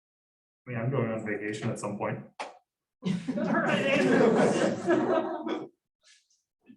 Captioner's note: laughter